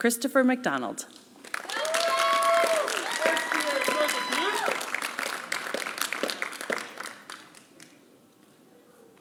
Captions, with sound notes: Christopher McDonald. (applause)